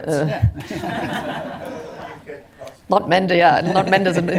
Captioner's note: laughter